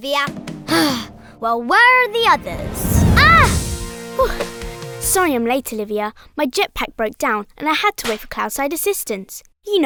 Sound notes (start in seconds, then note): 0.7 sighing; 2.1 wooshing